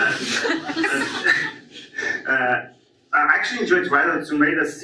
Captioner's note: audience laughs